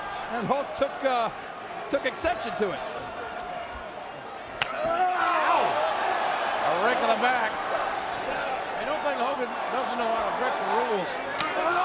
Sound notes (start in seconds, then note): 4.7 wrestlers grunting